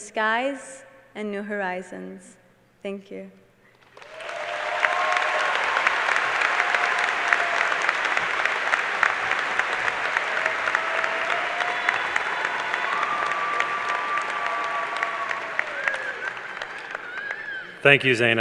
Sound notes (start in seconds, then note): 3.8 cheers and applause